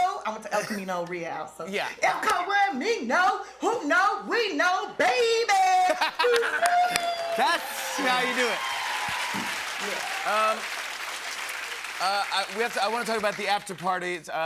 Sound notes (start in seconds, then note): 5.8 laughter; 5.9 cheers and applause